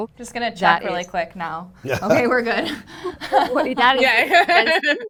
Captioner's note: laughs